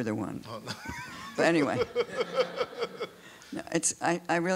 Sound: laughs

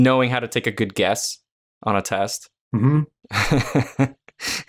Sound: chuckles

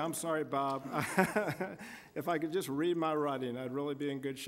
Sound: laughing

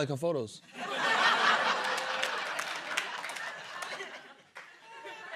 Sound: laughter

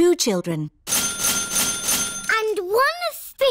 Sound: dinging

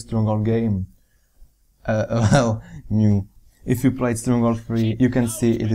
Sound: giggle

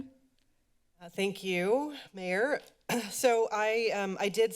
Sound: clears throat

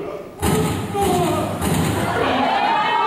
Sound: bang, bang, bang

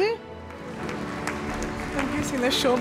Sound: audience clapping

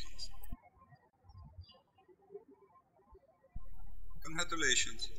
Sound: birds chirping

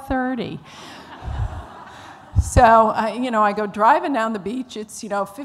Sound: laughter

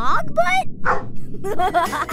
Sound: barking; laughing

